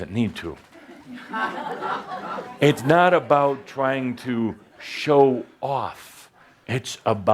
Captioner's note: laughter